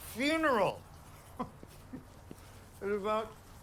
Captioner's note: Chris chuckles